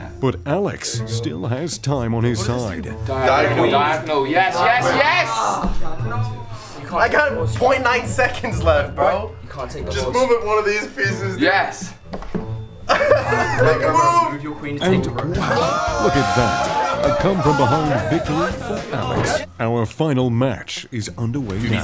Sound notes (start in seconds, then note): 5.4 groaning; 12.8 laughter